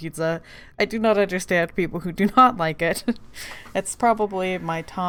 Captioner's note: laughing